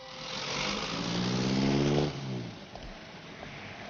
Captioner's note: car motor revving